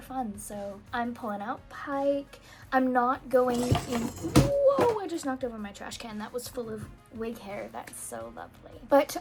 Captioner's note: loug bang